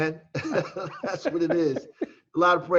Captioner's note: laughing